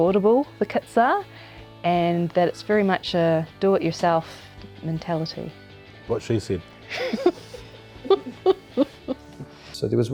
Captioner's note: laughter